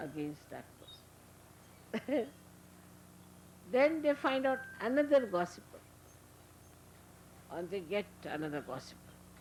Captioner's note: Shri Mataji laughing